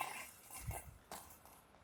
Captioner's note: ball jingles